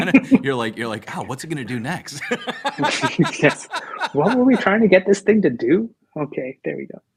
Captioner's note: laughter